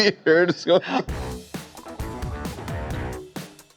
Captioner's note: laughter